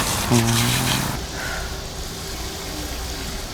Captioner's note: sigh